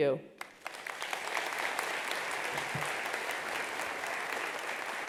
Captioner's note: attendees applauding